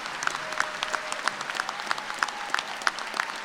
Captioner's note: applause